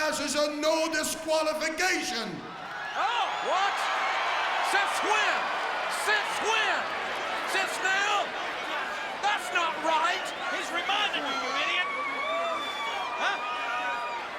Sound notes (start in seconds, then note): 3.1 audience cheers